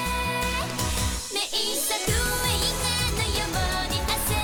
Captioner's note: none